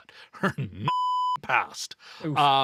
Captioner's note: beep